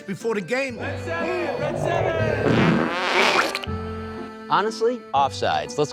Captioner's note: loud flatulating